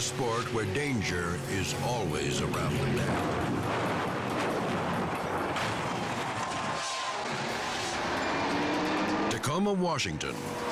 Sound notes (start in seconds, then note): 3.7 boat thudding